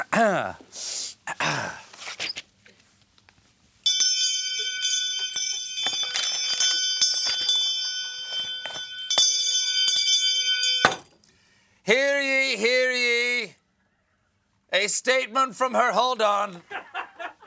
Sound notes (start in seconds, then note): 1.2 clears throat; 3.8 bell ringing